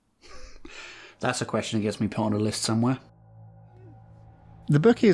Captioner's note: chuckling